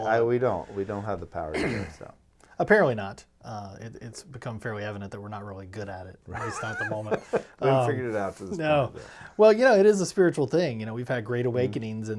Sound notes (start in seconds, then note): 1.5 clears throat; 6.3 laughing